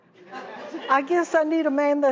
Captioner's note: laughing